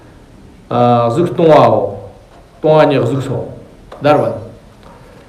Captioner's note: tibetan